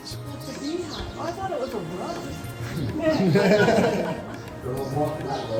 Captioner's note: laughs